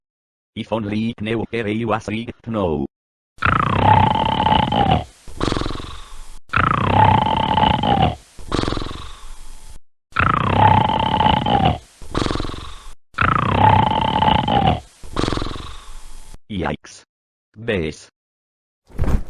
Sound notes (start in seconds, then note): 3.2 Sergio snoring